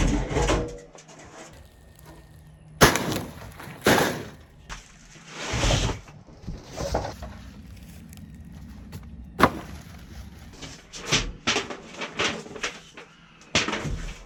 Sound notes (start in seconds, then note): 0.1 loud Thud; 2.8 thud; 11.2 crinkling Foil